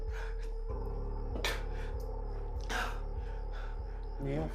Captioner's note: Malik gasping